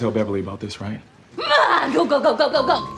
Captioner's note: yelling